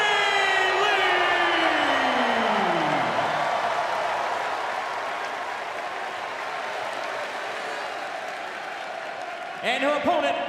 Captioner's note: crowd cheering